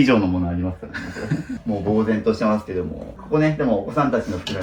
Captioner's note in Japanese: 笑い